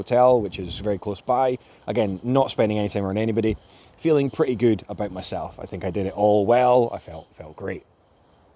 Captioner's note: none